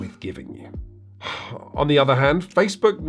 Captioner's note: man sighs